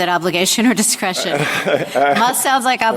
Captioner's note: laughter